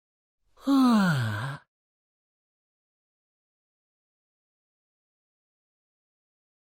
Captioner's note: yawn